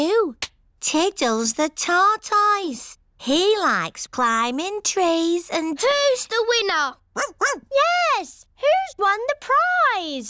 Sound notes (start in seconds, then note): 7.1 barks